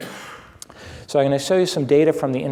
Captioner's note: someone coughs